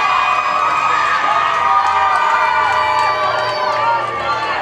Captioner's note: audience cheers